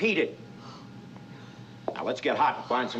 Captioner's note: whispers